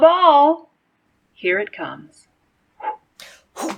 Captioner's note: makes throwing sound